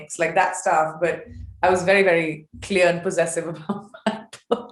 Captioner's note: chuckles